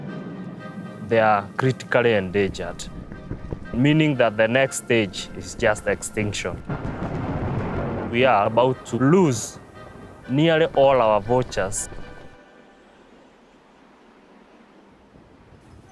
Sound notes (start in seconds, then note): 2.5 clap of thunder; 10.2 clap of thunder